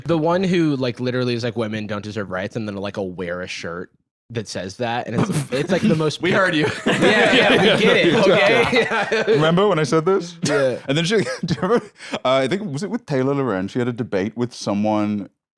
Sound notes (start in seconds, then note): 10.3 laughs